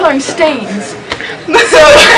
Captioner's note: laughter